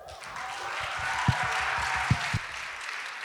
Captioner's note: applause